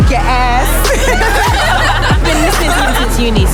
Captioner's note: laughter